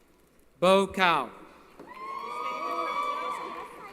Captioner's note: cheering